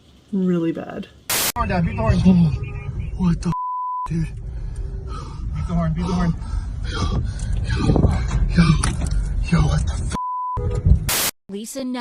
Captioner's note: heavy breathing